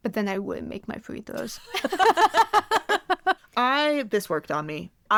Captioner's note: both laugh